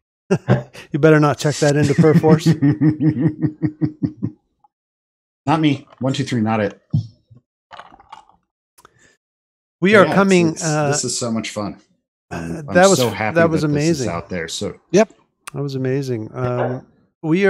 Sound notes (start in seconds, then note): 1.7 laughter